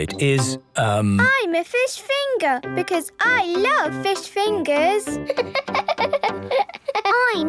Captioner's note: laughing